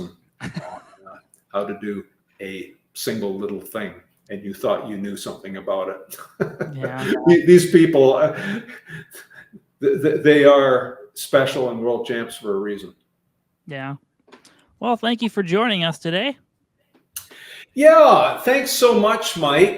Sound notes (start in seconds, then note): 6.1 laughing